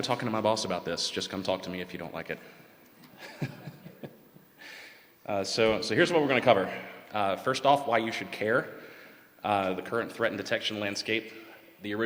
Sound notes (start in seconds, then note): 5.3 laughter